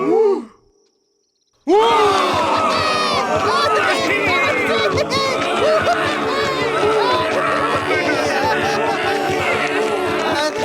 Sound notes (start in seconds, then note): 1.7 cheering